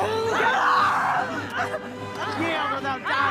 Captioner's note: suspenseful orchestral music; yelling, groaning